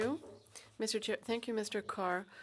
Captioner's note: speaking French